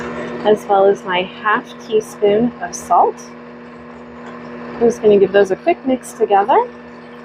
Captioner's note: mixer sound